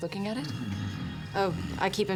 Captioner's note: snores